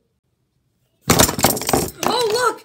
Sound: item smacking sound

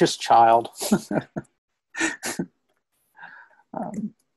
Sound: laughs

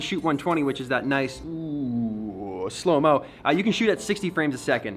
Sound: makes slow motion sound

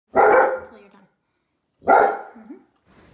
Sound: barking

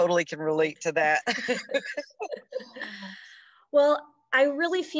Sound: laughs

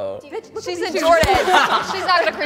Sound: laughing

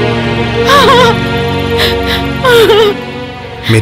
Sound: crying

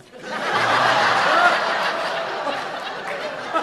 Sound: audience laughs

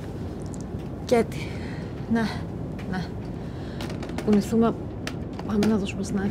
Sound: Vanina speaking foreign language; Kaiti speaking foreign language

